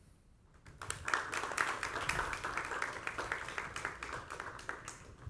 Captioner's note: applause